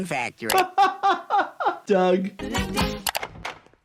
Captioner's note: laughs